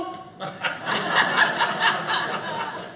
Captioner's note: audience laughing